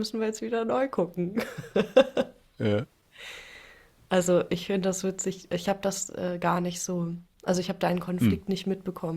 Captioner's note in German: gelächter